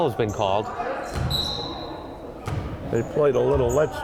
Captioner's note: whistle blowing